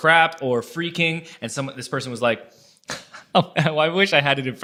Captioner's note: laughs